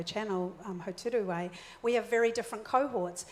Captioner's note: foreign language